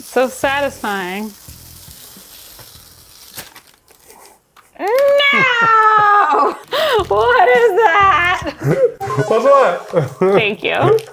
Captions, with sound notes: So satisfying. (paper rustling) No. What is that? What's what? Thank you.